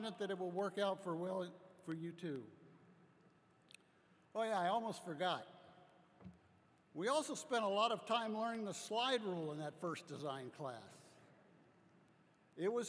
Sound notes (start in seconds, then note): none